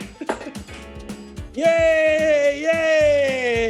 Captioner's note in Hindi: चिल्लाना जारी है